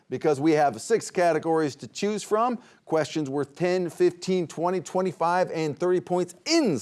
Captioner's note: none